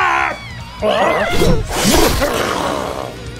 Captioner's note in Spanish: ruidos de confusión de trasgo